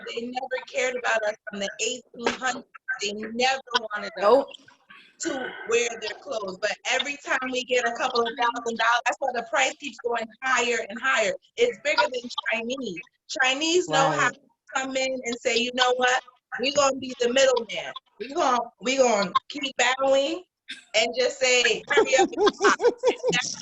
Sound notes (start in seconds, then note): 4.7 woman's Voice; 14.3 woman's Voice